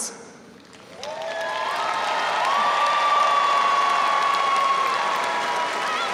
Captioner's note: audience cheering and applauding